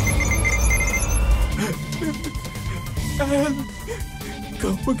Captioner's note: sobbing softly